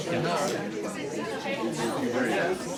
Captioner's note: crowd chatters